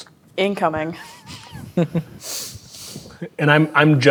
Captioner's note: players chuckling